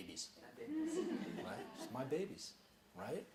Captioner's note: chuckling